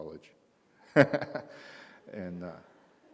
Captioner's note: laughs